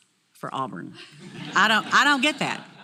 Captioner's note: laugh